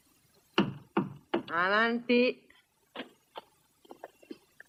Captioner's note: knocking